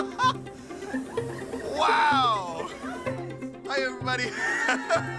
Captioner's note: laughter